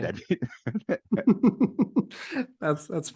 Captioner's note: all laughing